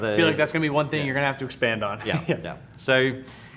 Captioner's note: laughs